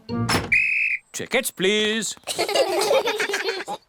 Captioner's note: blows whistle; all laugh